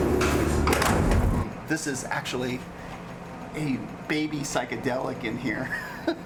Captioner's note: laugh